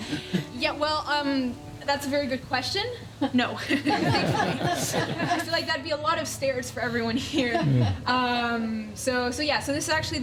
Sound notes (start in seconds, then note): 3.7 laughing